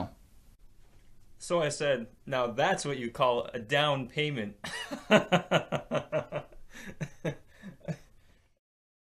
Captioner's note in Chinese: 乾笑